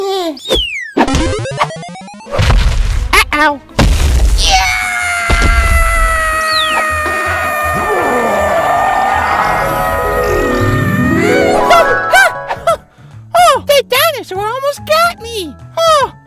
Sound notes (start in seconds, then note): 1.0 video game music; 7.7 dinosaur roars